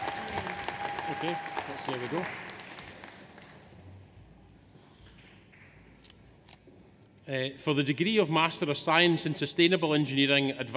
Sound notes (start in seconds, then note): 2.7 audience applauds; 2.7 audience cheers